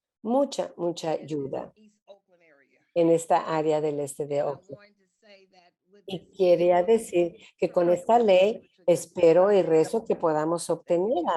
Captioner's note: Spanish